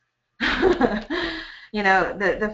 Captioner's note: laughs